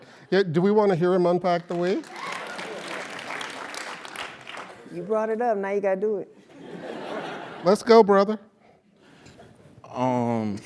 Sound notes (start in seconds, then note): 1.5 applause; 6.6 laugh